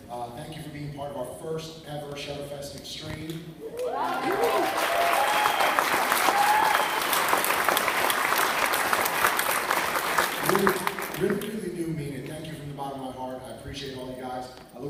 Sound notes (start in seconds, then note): 3.6 cheering and clapping